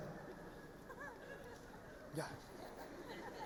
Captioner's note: audience laughing